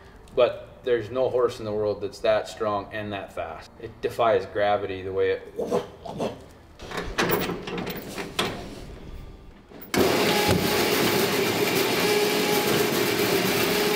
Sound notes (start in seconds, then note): 6.8 Juice Hawg clanking; 9.8 engine whirs